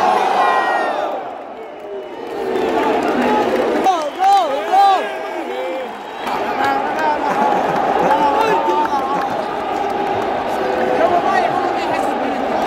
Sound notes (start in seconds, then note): 1.3 clap